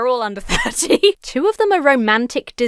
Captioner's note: laughs